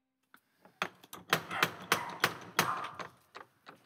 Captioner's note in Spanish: Golpes a la puerta